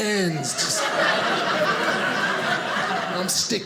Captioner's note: audience laughing